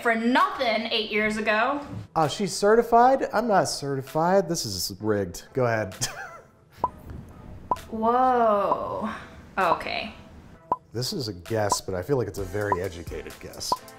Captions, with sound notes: for nothing, eight years ago. - Oh, she's certified. I'm not certified. This is rigged. Go ahead. (he laughs) (timer ticking) - Whoa. Oh, okay. - This is a guess, but I feel like it's a very educated guess.